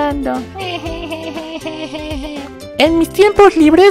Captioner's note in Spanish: llanto